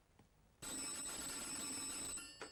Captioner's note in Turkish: telefon çalar